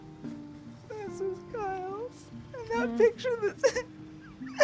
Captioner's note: crying